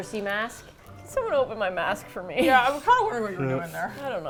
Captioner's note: pleading